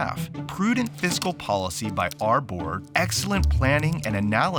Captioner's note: keyboard typing